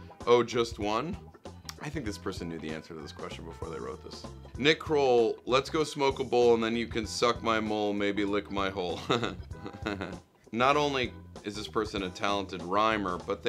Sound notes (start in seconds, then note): 9.0 laughs